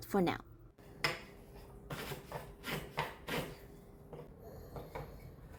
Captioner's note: variety of sounds of wood being planed